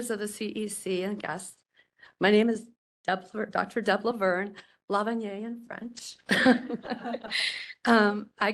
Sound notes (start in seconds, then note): 6.3 laughing